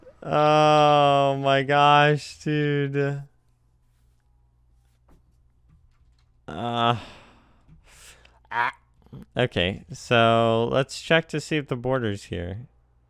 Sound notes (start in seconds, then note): 7.8 teeth inhale; 8.5 gremlin noise